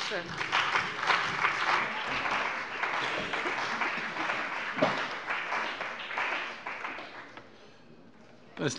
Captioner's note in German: Beifall bei der CDU und dem BÜNDNIS 90/DIE GRÜNEN